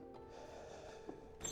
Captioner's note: troubled sigh